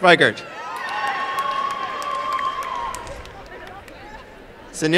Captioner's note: applause and cheering